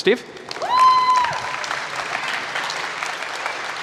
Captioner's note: applause